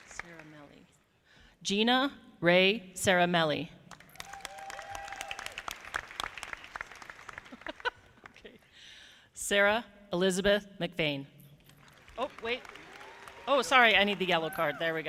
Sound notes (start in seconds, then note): 4.0 audience applauding; 7.6 laughing